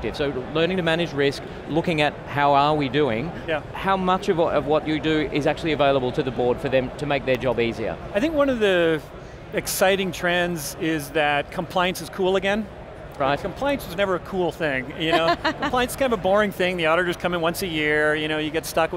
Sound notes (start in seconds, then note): 15.0 laughs